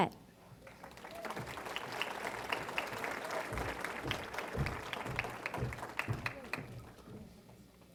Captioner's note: applause